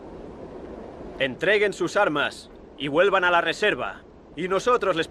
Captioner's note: Ramirez speaks Spanish